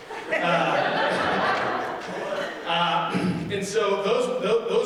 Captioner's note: audience laughing